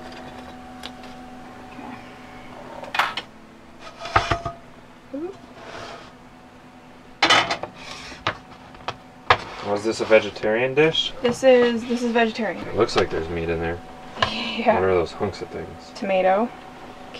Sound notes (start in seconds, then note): 4.0 clanking